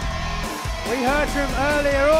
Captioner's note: cheers and applause